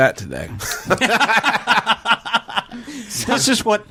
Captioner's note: laughter